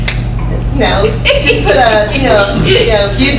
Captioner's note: laughs